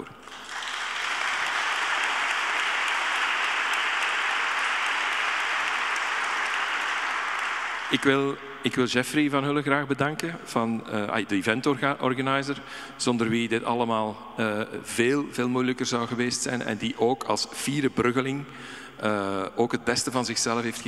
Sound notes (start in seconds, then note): 0.1 audience applauding; 7.6 speaking in Dutch